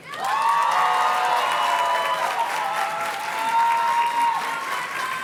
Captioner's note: audience cheers and claps